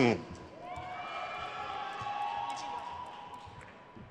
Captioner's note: crowd cheers